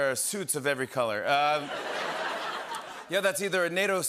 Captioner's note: laughter